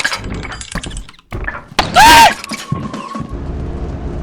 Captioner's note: getting shot screams